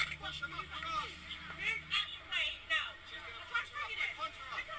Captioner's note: angry exchanges between driver and protesters